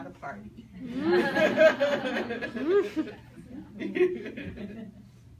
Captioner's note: people laugh